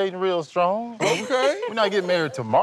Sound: laughs

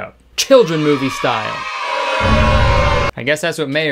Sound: kids cheering

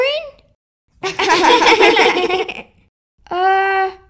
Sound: laughing

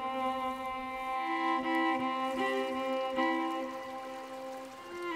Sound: river flowing

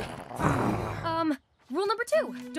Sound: Willa growling; Razzy growling

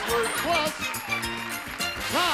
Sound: applause

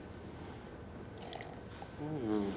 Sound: loud slurp

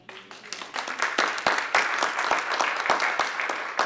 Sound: applause

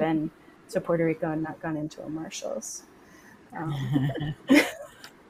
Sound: laughs

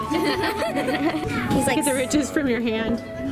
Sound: laughing

